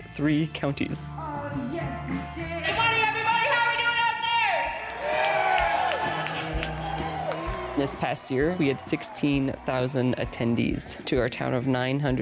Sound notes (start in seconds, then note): 6.9 audience cheering